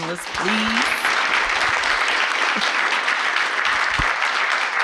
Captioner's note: audience clapping